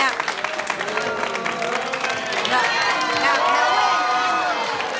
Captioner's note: audience claps and makes noise